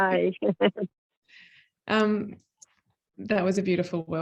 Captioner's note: laughs